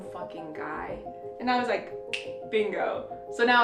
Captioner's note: snap